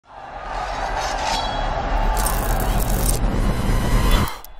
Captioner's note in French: Cris de la foule